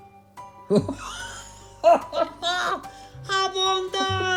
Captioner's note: both laughing